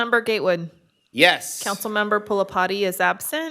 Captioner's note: laughing